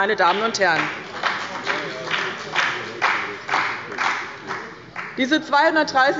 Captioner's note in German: Beifall bei dem BÜNDNIS 90/DIE GRÜNEN und der CDU